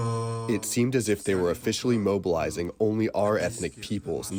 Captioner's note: through translator